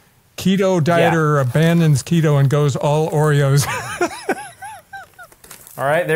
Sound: laughs

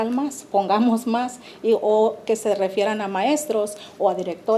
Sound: speaking Spanish

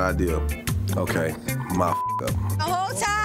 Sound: beep

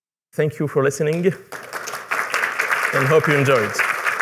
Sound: applause

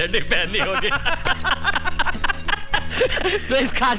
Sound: laughing

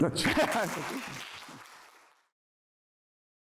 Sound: applause

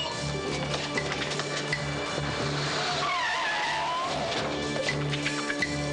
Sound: groans

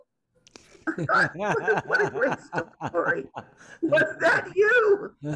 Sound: laughs

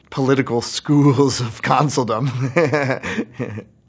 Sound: laughs

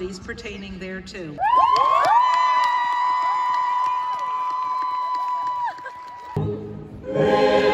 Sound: the crowd cheers

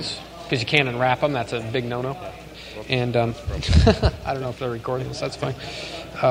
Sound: chuckle

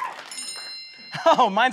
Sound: bell noise

